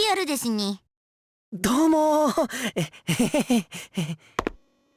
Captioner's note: awkward laugh